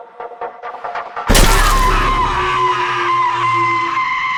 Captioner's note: Shana yells